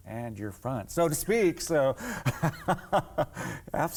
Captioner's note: laughing